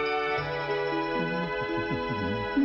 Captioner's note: gentle humming